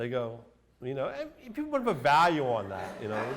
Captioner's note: laughter